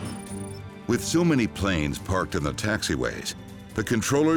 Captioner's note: voiceover